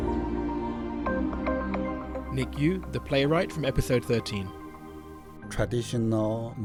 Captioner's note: voiceover